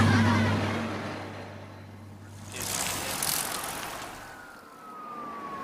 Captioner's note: SFX: kids laughing; SFX: bikes passing